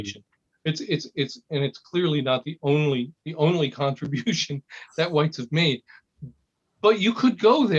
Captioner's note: laugh